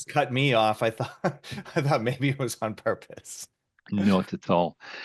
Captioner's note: chuckles